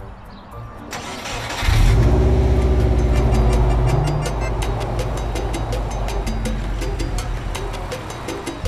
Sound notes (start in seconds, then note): 0.9 engine starts